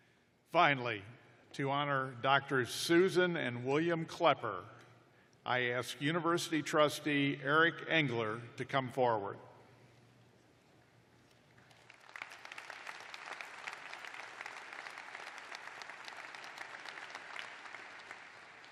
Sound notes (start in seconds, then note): 7.8 applause